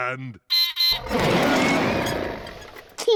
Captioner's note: beeps and roars; laughs